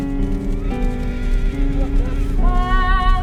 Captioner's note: horse neighing